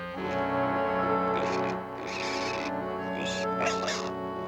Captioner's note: grunting, squealing